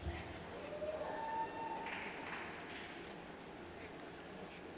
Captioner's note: cheers and applauds